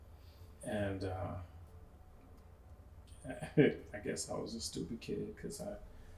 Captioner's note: laughs